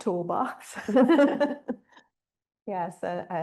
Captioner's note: all laughing